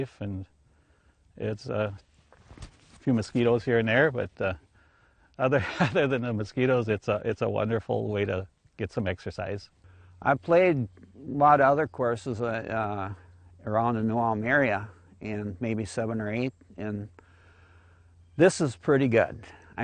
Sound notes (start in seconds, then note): 5.5 laughs